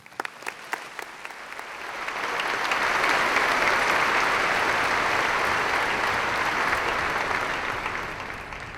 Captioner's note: applause